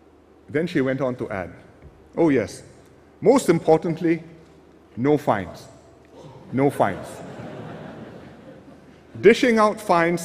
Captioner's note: laughter